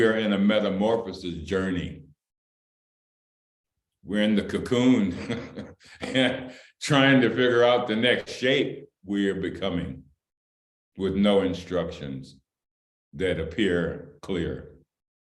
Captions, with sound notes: We are in a metamorphosis journey, we're in the cocoon (Laughter) and trying to figure out the next shape we are becoming with no instructions that appear clear,